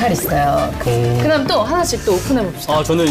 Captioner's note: faltering a little